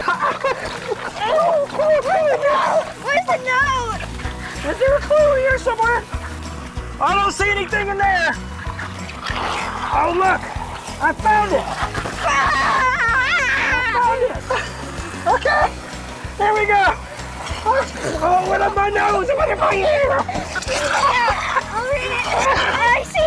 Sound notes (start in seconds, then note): 0.0 giggling; 12.2 yelling; 21.0 laughing